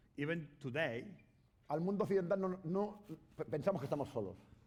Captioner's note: speaking spanish